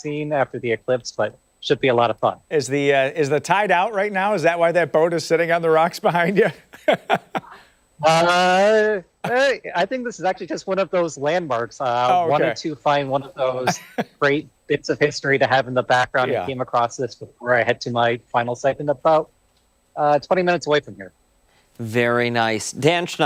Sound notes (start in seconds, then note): 13.6 laughter